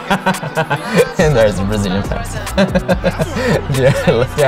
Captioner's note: laughing